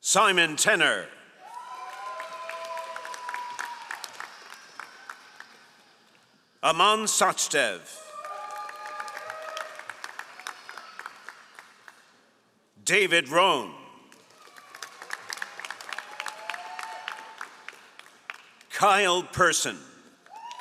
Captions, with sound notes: Simon Tener. (all applauding) Ahman Sachdev. (all applauding) David Ron. (all applauding) Kyle Person.